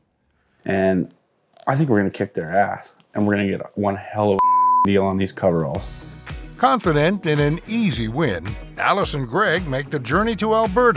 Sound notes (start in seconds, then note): 4.4 beep